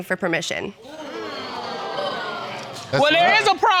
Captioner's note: audience exclaims